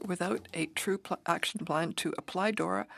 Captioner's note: speaking French